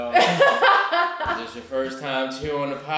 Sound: laughter

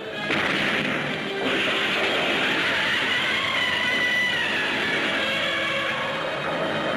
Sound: explosions booming; buildings rumble; Gammera screeching; dramatic music

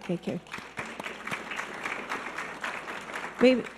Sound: scattered applause

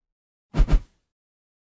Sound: woosh

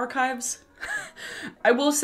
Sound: chuckles

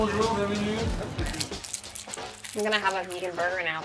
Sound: wrapper crinkles

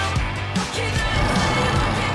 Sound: growling

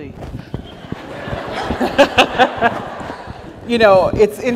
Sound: audience laughs; laughs

